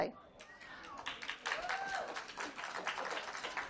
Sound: applause

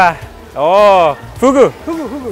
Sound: speaking in foreign language

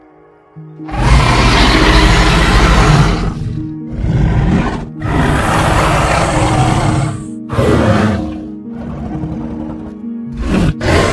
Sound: albertosaurus roaring

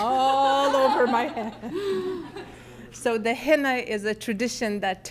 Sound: laughing

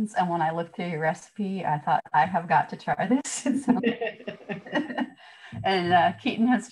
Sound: laughter

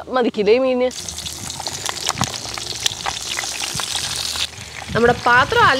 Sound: sizzling

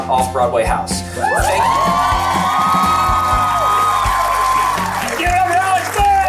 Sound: crowd cheering

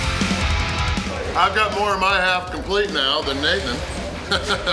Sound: laughs

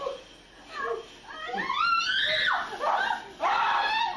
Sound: screaming

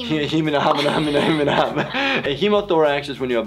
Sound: laughs

